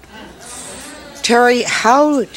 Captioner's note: audience reacts in disbelief